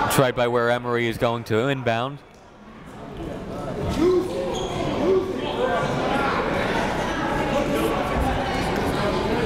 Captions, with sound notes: It's right by where Emory is going to inbound. (crowd talking)